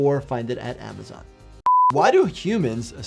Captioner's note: beeps